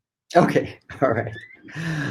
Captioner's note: laughs